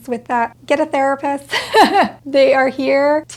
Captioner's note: laughs